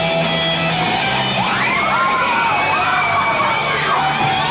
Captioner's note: cheering